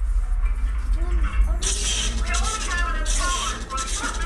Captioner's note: engine sounds begin